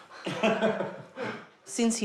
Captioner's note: both laugh